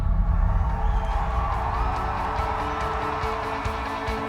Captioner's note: cheering